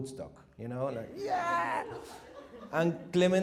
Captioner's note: laughter